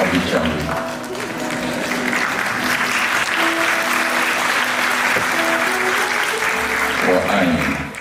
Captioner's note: applause